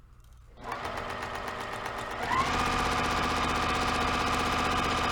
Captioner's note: sewing machine rattling